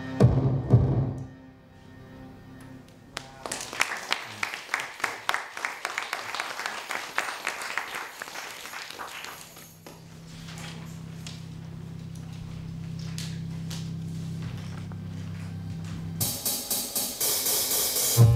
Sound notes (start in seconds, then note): 4.8 audience applauding